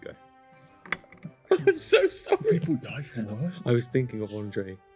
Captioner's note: whispers